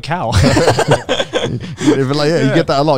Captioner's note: laughs